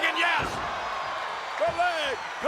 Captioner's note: audience cheering